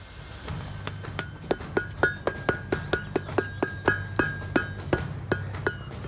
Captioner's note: metal clangs